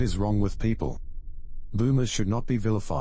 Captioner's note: electrical noise